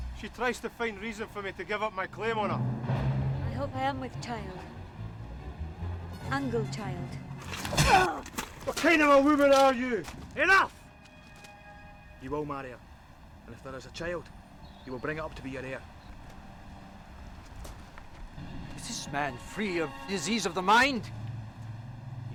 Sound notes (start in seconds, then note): 7.7 grunting